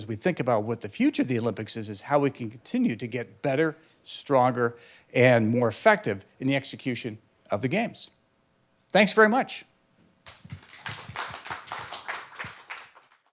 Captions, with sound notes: as we think about what the future of the Olympics is how we can continue to get better, stronger, and more effective in the execution of the games. Thanks very much. [APPLAUSE]